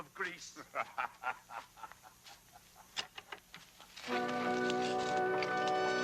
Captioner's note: Treet laughing; dramatic music